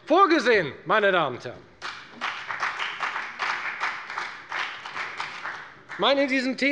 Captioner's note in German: Beifall bei der FDP